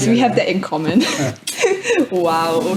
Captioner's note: chuckles